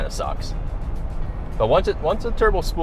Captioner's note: car engine roaring; upbeat music